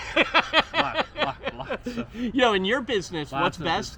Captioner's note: laughs